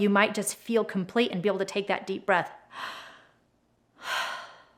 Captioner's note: exhales